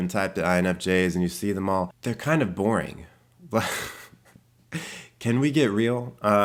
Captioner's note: chuckles